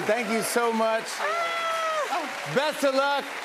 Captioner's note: applause